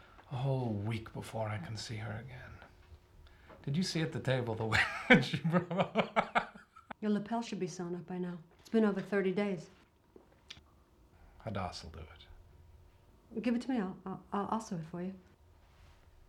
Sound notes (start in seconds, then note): 4.8 laughing